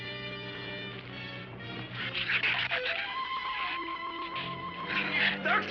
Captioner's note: shrews chattering